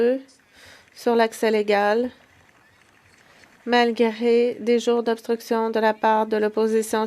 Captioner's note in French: voix de l'interprète